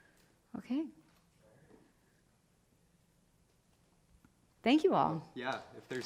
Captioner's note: speaking faintly